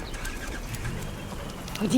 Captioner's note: birds chirping in background